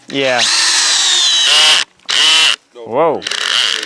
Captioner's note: drill catches, making a bad noise